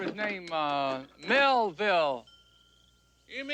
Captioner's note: bell rings